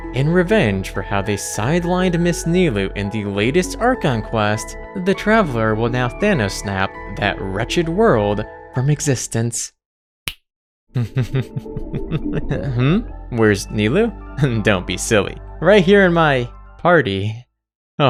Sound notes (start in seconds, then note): 10.2 snaps fingers; 10.9 maniacal laughter